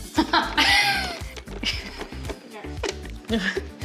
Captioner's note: laughing